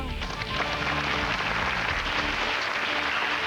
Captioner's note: applause; hard rock music